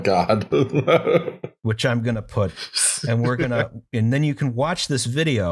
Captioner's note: laughter